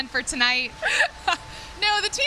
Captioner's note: laughs